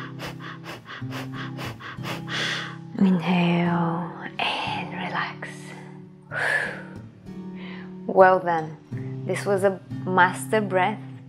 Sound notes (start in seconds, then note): 6.5 exhales